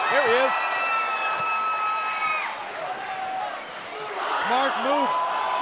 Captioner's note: crowd cheering